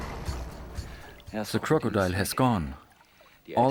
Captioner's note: in German